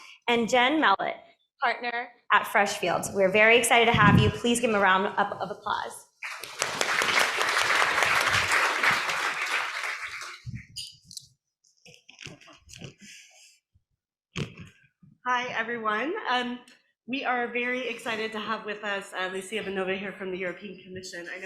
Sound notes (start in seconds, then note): 6.2 applause